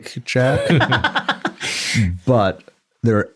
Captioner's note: laughs